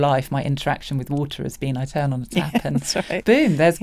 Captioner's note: laughs